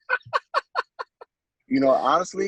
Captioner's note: laughter